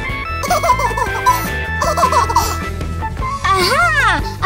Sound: baby laughing

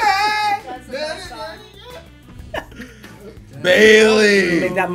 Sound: laugh

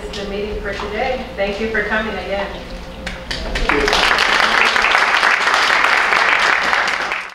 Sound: applause

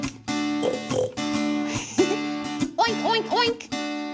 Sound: grunting

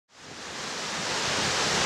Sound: sound of waterfall

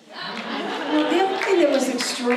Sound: audience laughs

